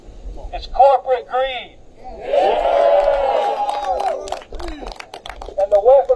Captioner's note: applause